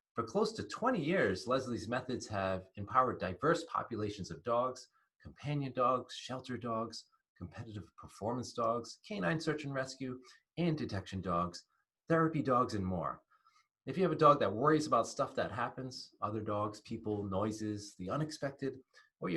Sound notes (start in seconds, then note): none